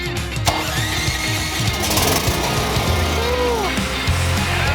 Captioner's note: generator starts